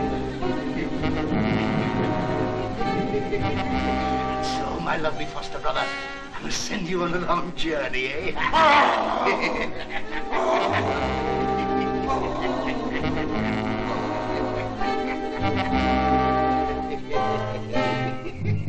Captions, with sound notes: And so, my lovely foster brother, I must send you on a long journey, eh? (GROWLING) (LAUGHING)